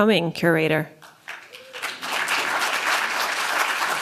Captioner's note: applause